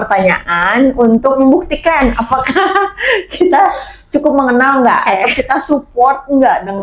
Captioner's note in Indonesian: tertawa